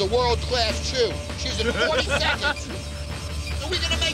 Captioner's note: he laughs